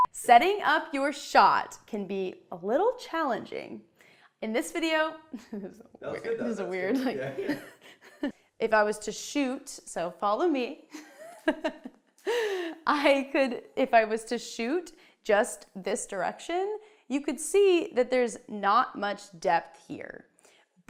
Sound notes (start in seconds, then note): 5.4 chuckles; 10.5 laughing